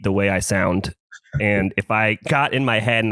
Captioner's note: laughs